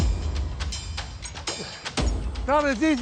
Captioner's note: groaning